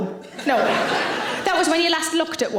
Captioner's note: audience laughing